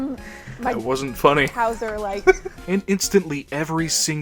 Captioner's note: laughter